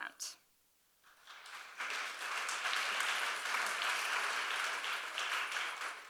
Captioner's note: audience applauding